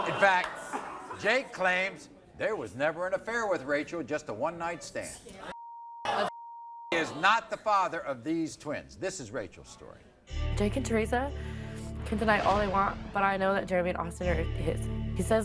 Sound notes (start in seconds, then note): 5.5 beep